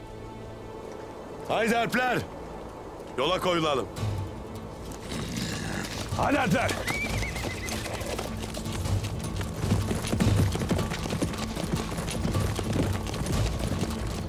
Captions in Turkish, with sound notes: Haydi Alpler, yola koyulalım. Haydi Alpler. (At kişneme sesi) (At nalı sesleri)